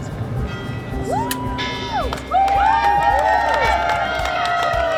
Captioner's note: whooping; people clapping